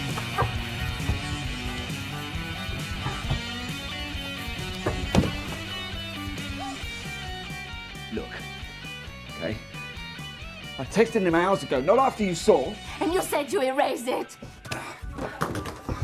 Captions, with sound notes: (Eloise gasping) Look... okay? I texted him hours ago, not after you saw! - And you said you erased it!